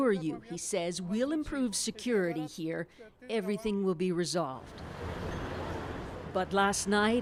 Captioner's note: speaking Foreign Language